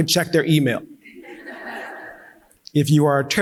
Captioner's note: audience laughing